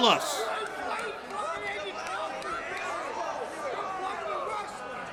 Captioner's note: crowd yells